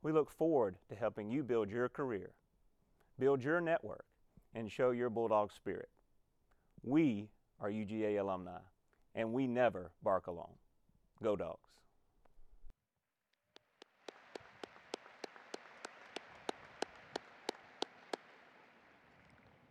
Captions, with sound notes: We look forward to helping you build your career build your network and show your Bulldog spirit. We are UGA Alumni and we never bark alone, go Dawgs! (audience applauding)